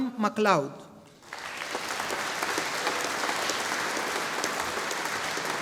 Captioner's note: audience applauding